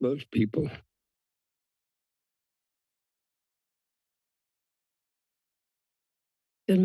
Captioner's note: silence